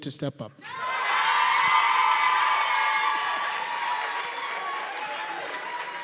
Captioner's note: loud applause and cheering